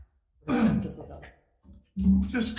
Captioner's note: person coughing